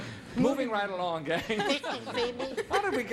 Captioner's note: laughing